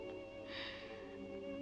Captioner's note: sigh